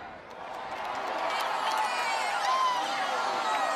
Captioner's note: cheering